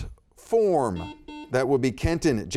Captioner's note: buzzer beeping